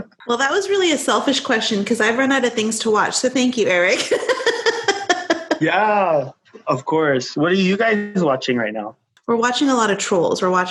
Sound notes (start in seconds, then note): 3.6 laughing